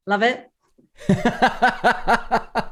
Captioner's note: laughter